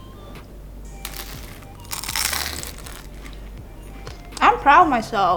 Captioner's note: crunching